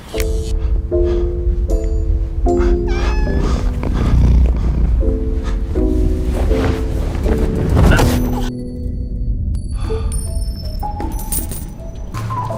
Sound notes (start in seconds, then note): 0.1 mysterious music; 2.6 cat meows, purrs; 7.8 grunts